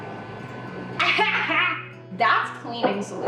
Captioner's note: laughing